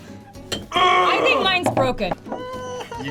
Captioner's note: grunts